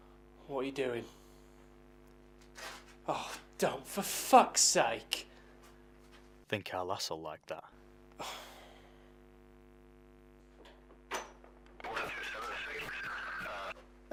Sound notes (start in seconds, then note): none